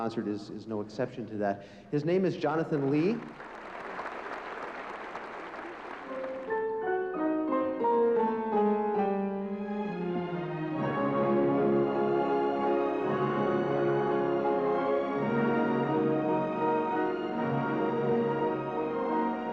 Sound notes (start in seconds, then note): 2.7 applause